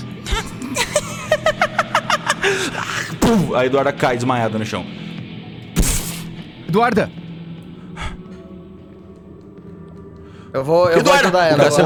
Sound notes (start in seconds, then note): 0.6 laughter; 3.2 thump